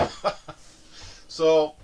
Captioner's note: laughing